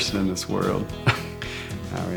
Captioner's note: laughs